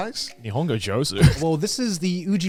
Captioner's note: speaks foreign language